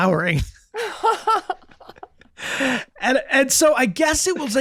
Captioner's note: Megan, Rob laughing